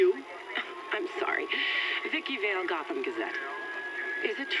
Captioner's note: chuckles; sirens wailing